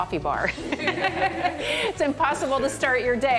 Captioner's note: laughter